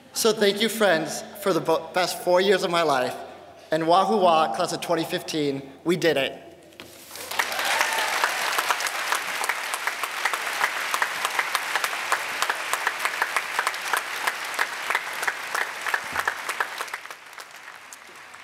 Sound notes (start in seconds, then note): 6.8 applause